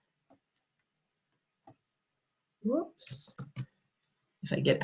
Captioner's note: taps mouse